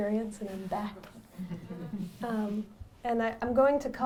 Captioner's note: audience laughs